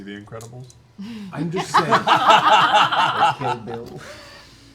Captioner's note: laughter